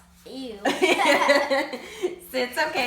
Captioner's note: laughs